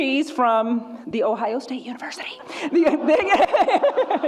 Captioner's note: whispers; audience laughs and groans; laughs